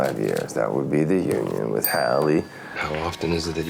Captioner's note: bell rings